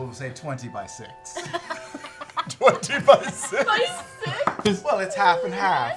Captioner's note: laughing